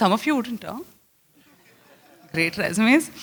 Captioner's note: laughter